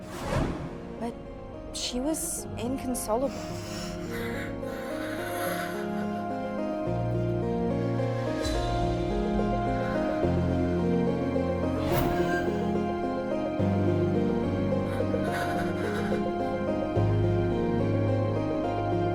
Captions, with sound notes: She was inconsolable. (Mrs. Miller crying) (dramatic, ominous music)